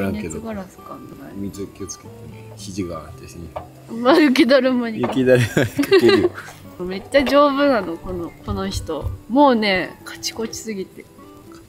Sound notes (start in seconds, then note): 5.4 laughs